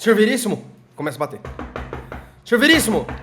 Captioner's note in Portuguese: sons de batidas